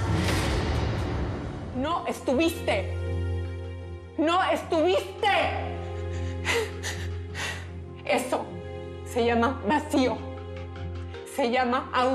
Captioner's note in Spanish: sollozos